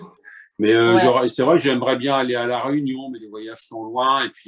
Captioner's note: none